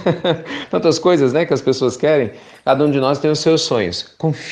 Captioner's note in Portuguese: Risos